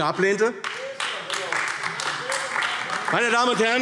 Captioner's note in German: Beifall AfD